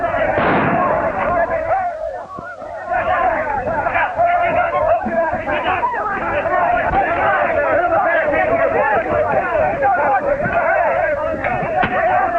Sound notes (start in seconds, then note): 0.3 gunshot; 6.1 shouting